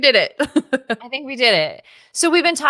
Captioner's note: laughs